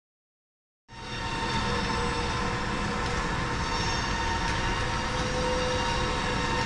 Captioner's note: machines whirring